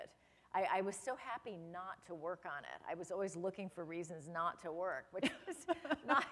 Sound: laughter

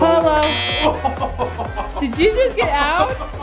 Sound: buzzer buzzes

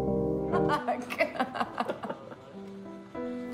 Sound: laughs

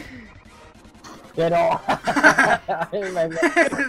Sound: laughs

